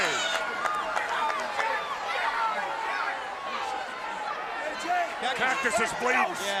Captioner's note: crowd cheering